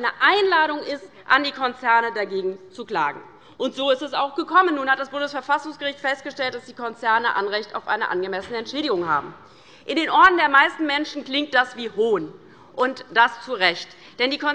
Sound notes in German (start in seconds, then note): none